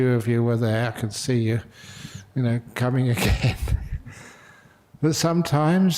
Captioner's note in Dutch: lachen